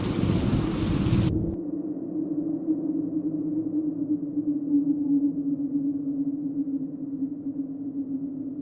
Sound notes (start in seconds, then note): 2.2 wind blowing